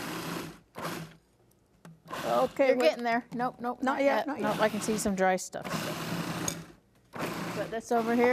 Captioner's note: grinding sound